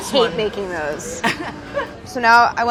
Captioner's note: laughs